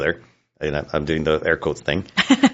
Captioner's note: laughs